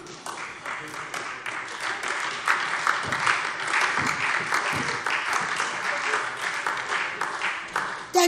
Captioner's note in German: Beifall SPD und Freie Demokraten - Heiterkeit AfD